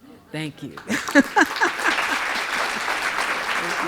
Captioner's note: audience clapping